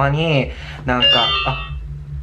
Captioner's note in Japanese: 切る音